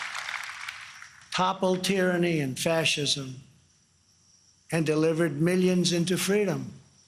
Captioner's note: applause